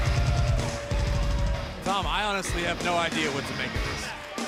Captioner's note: crowd cheering